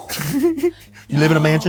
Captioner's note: giggles